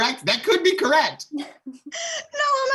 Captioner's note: laughing